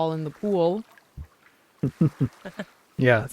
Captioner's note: chuckles